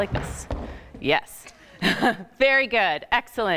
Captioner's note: laughing